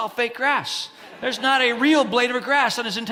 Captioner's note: congregants laugh